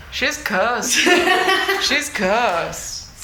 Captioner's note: laughing